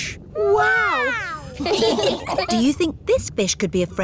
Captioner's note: laughing